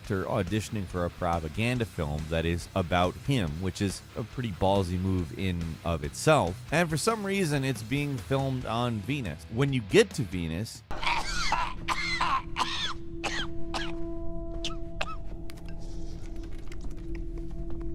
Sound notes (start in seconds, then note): 10.9 Hitler coughing